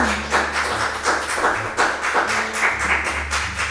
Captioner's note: applause